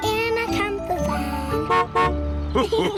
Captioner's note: horn honks; laughter